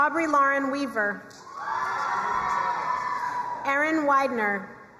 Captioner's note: crowd cheering and applauding